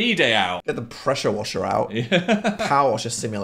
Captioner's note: laughs